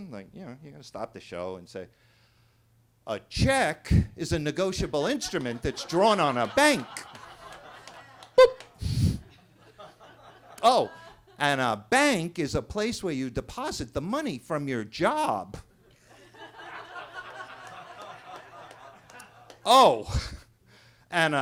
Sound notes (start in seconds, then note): 5.1 attendees laughing; 8.6 chuckles; 9.4 attendees laughing; 16.0 attendees laughing